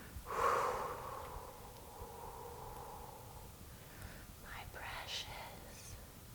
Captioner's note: exhaling